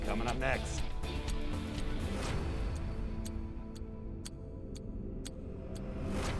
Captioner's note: clock ticking; suspenseful music